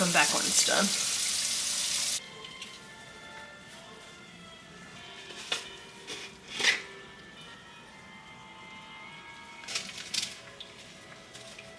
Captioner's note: general cleaning background noise, and music playing from the TV